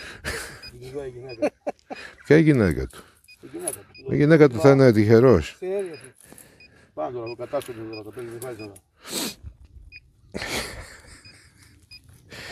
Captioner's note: laughs